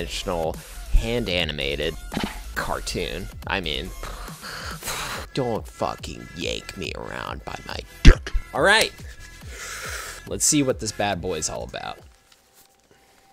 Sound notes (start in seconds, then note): 1.0 scoffs; 9.0 inhales